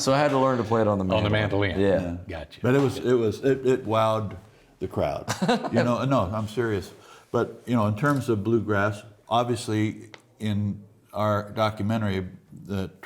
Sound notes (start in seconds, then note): 5.2 chuckles